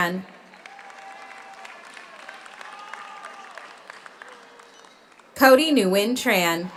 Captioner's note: audience applauds; audience cheers